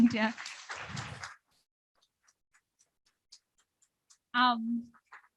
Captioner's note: audience applauding